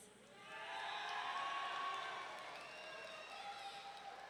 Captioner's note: audience cheering